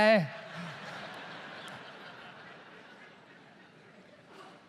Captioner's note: audience laughs